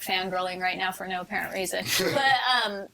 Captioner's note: all laughing